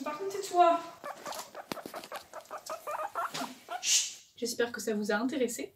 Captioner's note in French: couinements